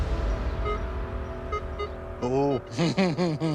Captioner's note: beeping; chuckles